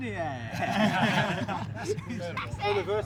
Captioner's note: laughter